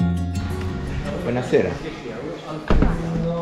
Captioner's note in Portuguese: Falando italiano